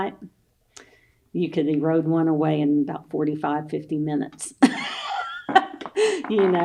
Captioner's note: laughs